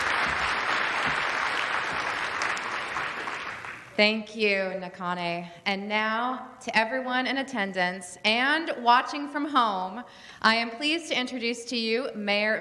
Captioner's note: applause